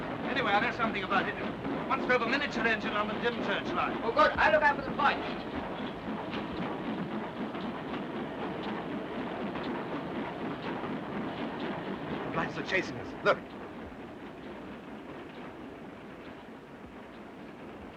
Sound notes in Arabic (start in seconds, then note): 6.1 صوت محرك القطار; 14.6 قطار يهدر بهدوء